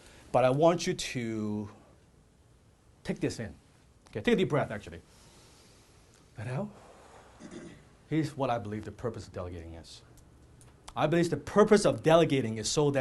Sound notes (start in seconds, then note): 6.7 exhales; 6.7 inhales